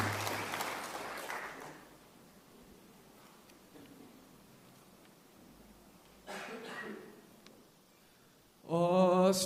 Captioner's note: applause